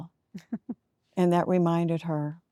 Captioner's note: giggling